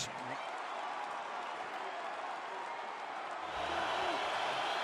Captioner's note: cheering